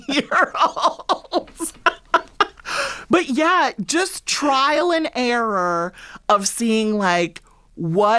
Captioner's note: laughter